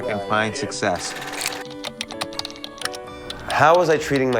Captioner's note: computer keys click